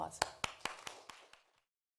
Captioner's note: clapping